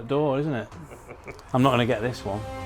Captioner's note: laughs